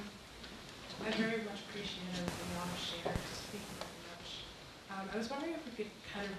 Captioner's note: static hissing